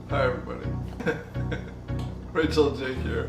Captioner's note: laughing